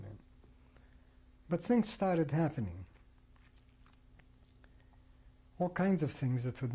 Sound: pauses for 3 seconds

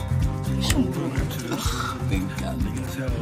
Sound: laughs

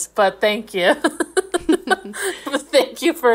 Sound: laughing

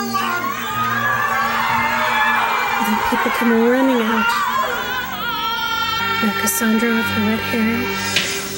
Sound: screaming

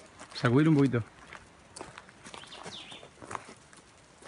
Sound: speaks in a foreign language

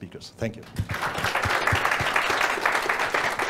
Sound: audience applause

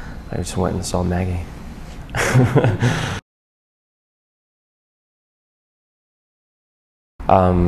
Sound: laughs

